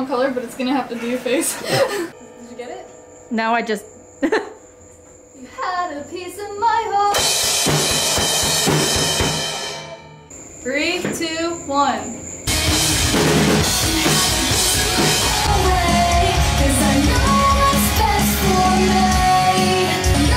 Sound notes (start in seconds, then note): 4.2 laughs; 7.0 drums